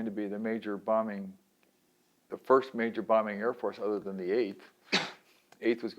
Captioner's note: sneezes